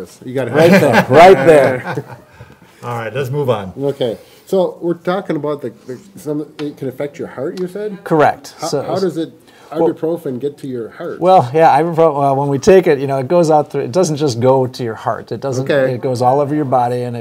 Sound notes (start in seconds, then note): 0.5 everyone laughs